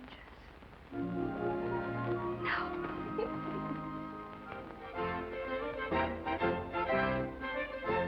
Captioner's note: laughs